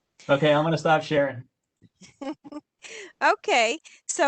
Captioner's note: laughter